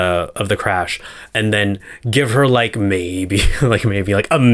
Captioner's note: none